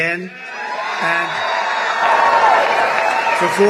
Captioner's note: cheering